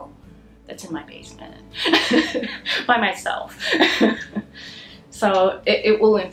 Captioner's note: laughter